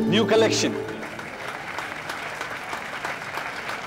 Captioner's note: Everyone clapping